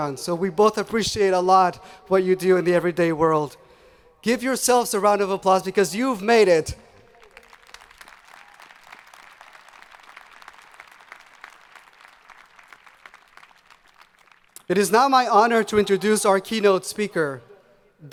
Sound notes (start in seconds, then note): 7.0 audience applauding